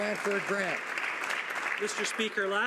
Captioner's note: some Applause